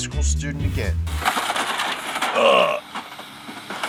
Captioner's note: metal cracks